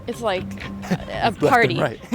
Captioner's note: laughter